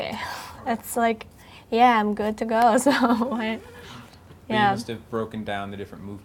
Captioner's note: laughing